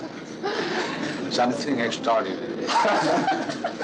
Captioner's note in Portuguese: risadas